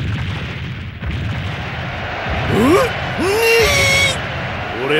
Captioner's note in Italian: grida di eccitazione